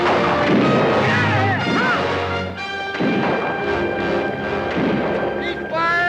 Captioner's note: guns fire